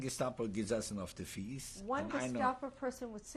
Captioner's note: speaking yiddish